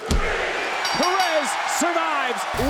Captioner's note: crowd cheering; bell dinging